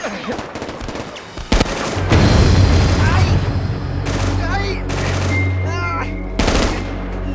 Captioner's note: groans